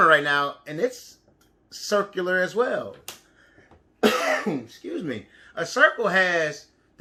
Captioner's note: coughs